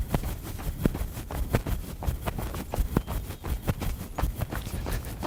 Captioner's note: sound of runner’s footsteps